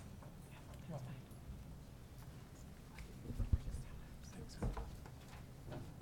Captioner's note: people chattering